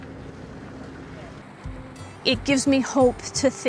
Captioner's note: vehicle engine roaring